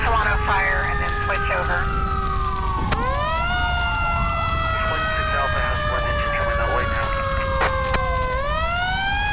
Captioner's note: sirens